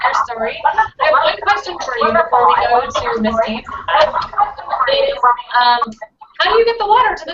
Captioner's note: echoes